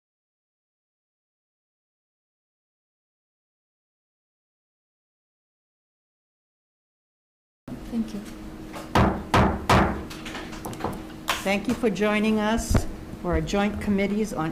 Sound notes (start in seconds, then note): 8.9 gavel banging